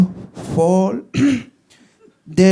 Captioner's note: clears throat